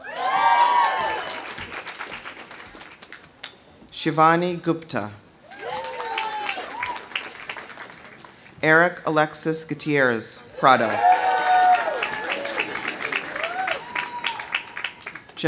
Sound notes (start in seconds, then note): 0.0 audience cheering; 0.0 audience applauding; 5.4 audience cheering; 5.5 audience applauding; 10.5 audience cheering; 10.6 audience applauding